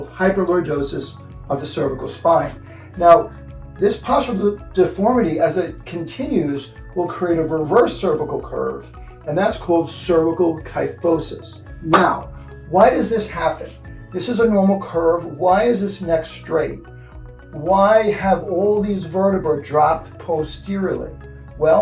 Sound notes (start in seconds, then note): 11.9 claps hands